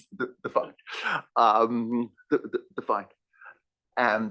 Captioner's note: laugh